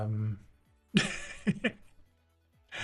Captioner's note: laughs